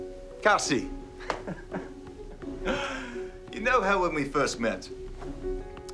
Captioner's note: laughs